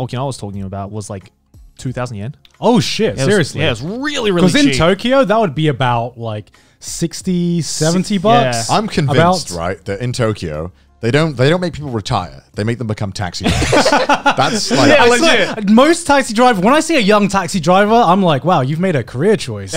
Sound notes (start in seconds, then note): 13.4 laughing